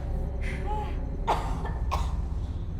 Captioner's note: Sharon coughing